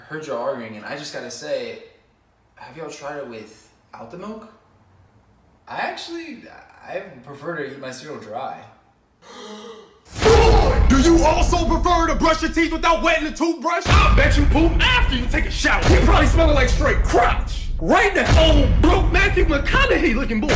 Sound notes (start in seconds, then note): 9.2 le gasp